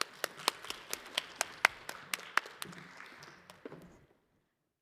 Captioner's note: audience applauding